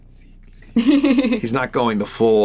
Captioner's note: laughs